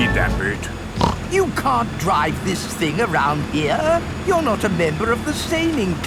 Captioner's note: snorts